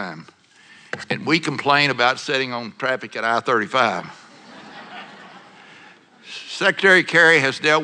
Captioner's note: laughter